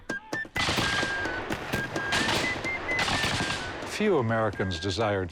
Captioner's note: gunfire